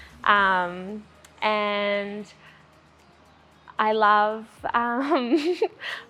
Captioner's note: chuckles